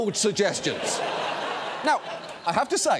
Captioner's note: audience laughs